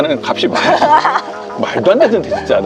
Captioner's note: laughter